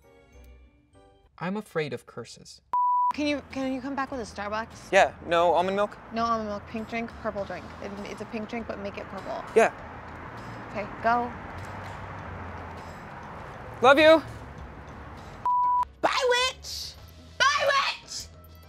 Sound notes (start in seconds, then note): 2.7 beep; 15.4 beep